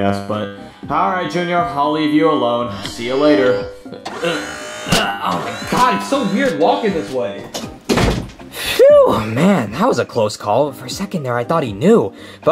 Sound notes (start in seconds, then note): 2.7 metal whirring; 4.0 Mario grunting; 7.4 door thuds